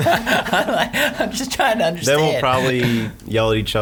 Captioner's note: laughing